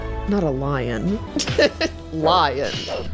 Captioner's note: laughs